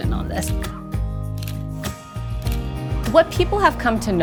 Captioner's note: shutter clicking